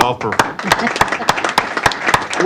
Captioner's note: applause